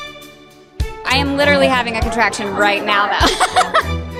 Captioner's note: laughs